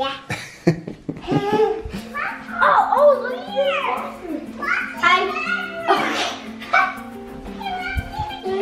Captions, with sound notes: - (laughs) Yeah. (dad laughs) - Oh look at this bathroom!